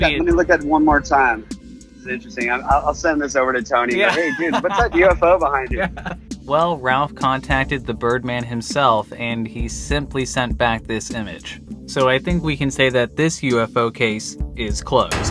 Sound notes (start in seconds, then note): 3.9 laughs